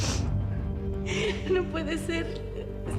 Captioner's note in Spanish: llanto y jadeos